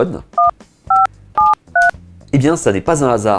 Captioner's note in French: sons produits par les touches du téléphone